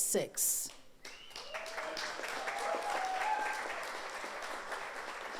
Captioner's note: audience applauds